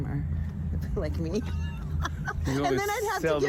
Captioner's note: laughs